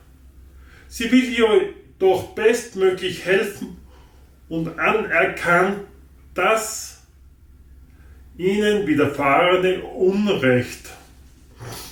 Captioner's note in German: schnauben